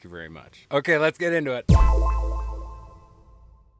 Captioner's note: musical "punch" echoing